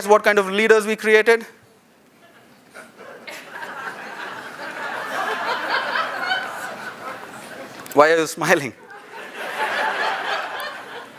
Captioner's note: laughter